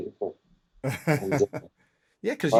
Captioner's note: laughter